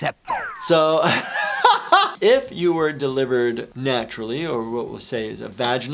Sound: laughs

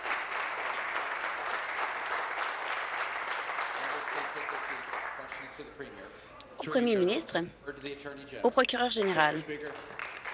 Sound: applause

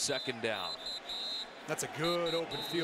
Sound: whistle

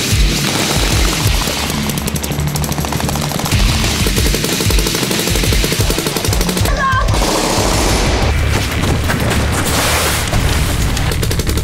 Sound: loud music; shooting

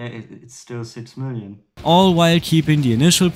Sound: splash of water

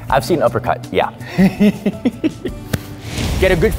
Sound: laughing

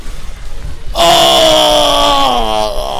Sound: grunting and moaning

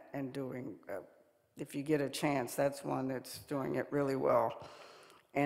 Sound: none

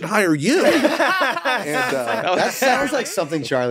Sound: all laughing

